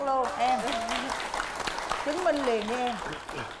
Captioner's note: applause